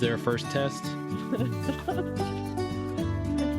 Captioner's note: laughs